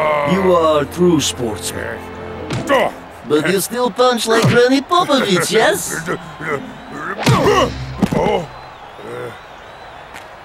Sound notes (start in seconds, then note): 5.8 grunts